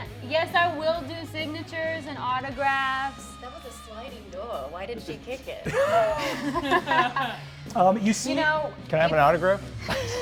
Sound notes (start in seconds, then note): 5.5 laughs